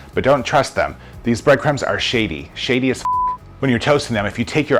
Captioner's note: beep